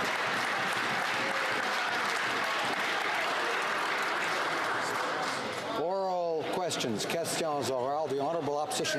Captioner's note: some Applause